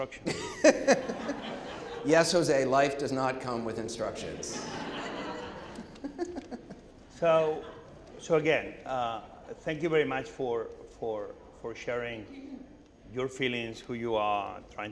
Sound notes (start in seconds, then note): 0.2 laughing; 3.4 audience laughing